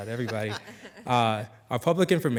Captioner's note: attendees laughing